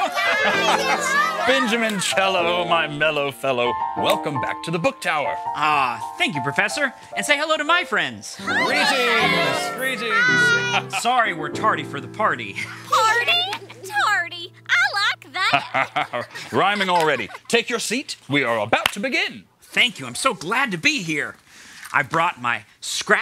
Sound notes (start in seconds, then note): 10.6 laughter